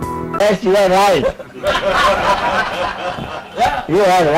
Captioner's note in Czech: smích